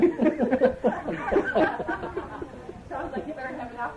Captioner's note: laughter